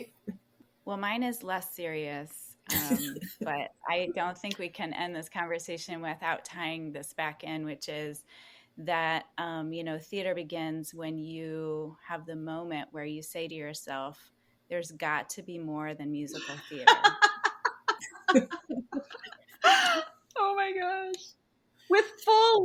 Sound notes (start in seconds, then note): 19.8 laugh